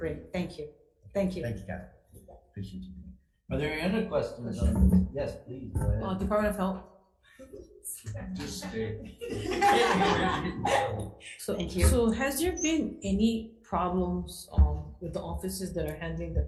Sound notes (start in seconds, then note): 8.1 attendees laughing; 8.1 board members laughing; 8.2 board members chuckling